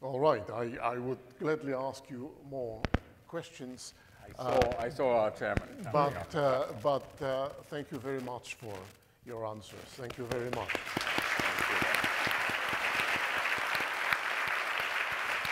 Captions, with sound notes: - All right, I would gladly ask you more questions. - I saw our chairman coming up. - But thank you very much for your answers. Thank you very much. (audience applauding)